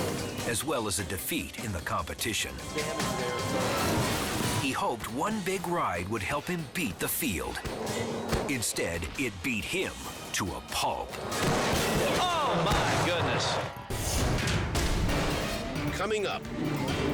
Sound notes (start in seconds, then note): 11.4 foot stomps; 13.8 dramatic music